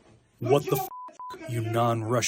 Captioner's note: through translator